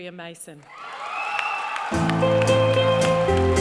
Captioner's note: cheering and applause